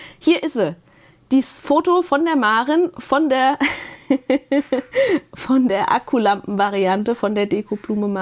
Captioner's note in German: gelächter